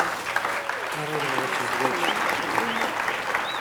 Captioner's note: applause